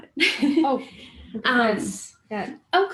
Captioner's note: laughter